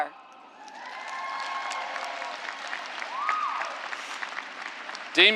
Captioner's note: cheers and applause